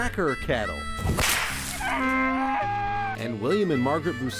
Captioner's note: whip cracking